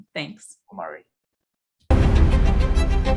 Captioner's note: end of audio